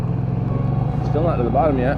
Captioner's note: boat rumbling